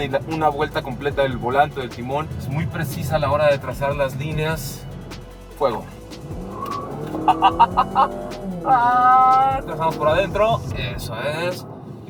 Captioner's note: laughter